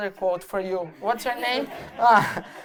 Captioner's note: laughter